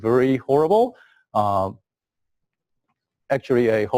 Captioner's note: pause